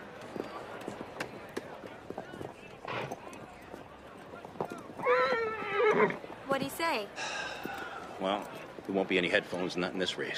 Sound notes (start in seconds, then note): 5.0 neighs